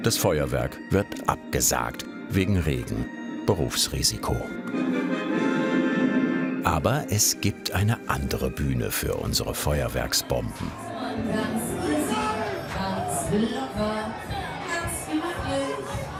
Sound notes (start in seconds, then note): 10.7 fairground noise